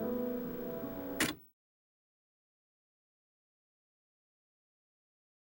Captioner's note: recorder clicks